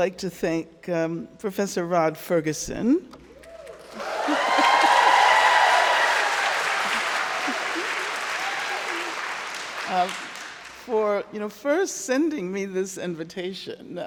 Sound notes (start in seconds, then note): 3.4 crowd cheering; 3.4 crowd clapping